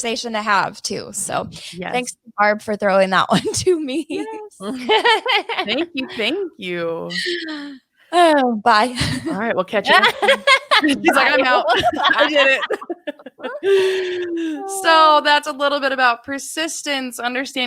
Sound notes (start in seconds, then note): 4.6 women laughing; 9.9 laughs